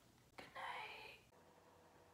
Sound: whisper

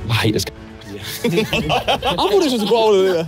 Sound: all laughing

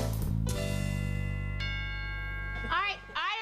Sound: doorbell rings

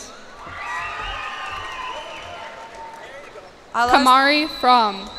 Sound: cheers and applause

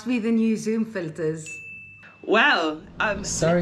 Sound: bell chimes

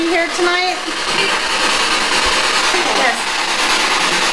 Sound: static crackling

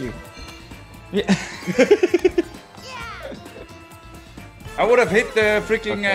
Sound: laugh

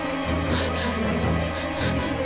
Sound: scared breathing

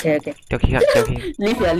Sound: laughing

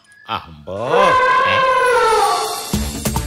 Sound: elephant trumpets

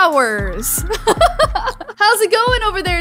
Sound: laughs

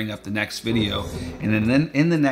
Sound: air swoosh ing

